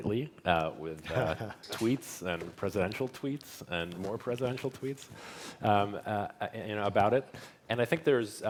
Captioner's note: laughter